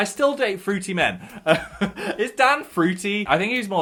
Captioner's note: laughs